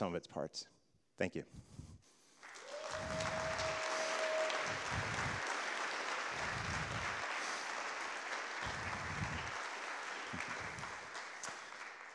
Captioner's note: applause